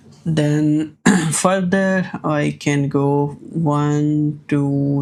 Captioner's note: clears throat